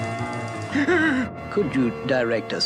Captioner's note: Adam West Gasps